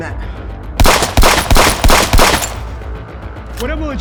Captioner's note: guns firing